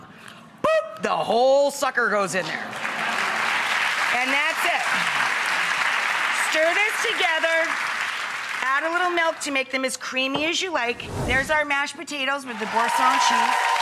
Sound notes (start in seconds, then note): 2.6 audience clapping